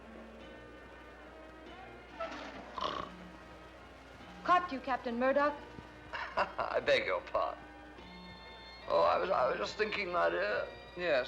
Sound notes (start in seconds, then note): 0.0 faint carnival music; 2.2 chair creaks; 2.2 man snores; 6.1 chuckles